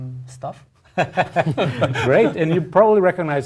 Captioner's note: laugh